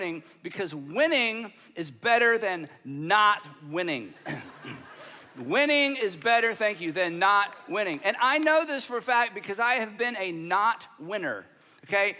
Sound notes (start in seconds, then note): 4.2 audience laughing